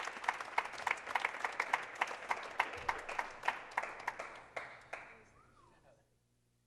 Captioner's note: clapping